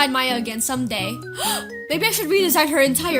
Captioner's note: gasp